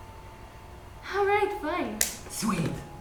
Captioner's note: sighs